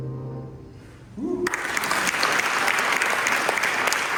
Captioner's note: applause